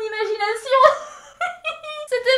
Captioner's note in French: Rires